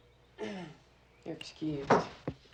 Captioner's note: groans